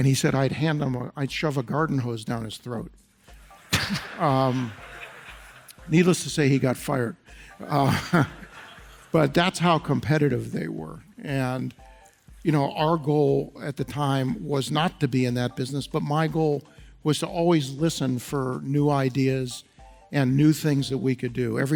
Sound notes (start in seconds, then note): 3.7 audience laughs